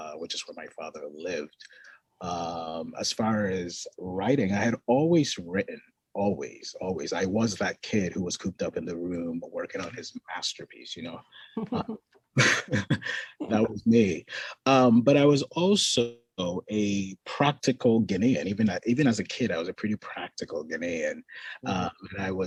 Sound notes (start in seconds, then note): 12.3 both laughing